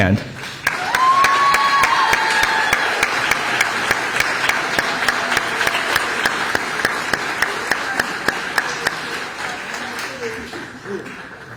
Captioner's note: applause